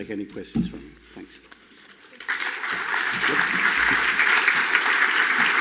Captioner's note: audience applauds